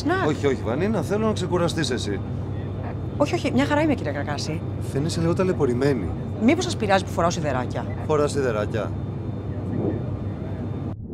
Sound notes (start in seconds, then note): 3.2 Vanina and pilots speaking foreign language; 9.4 electronic warbling